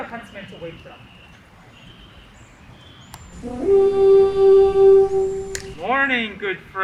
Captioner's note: horns blare